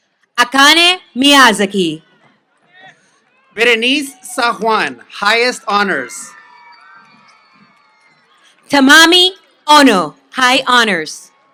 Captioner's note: applause